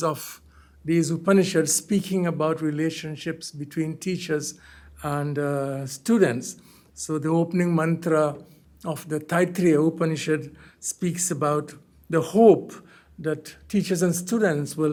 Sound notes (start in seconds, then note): 9.4 hindi